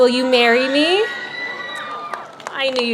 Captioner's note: audience cheers